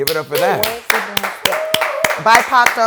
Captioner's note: applause